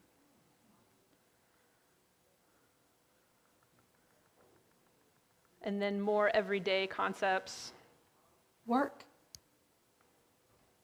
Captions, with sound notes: - And then more everyday concepts. - [Electronic Voice] Work.